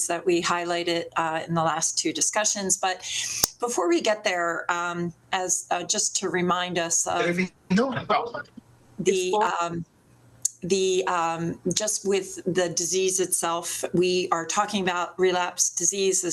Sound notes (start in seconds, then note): 7.8 indistinct microphone interference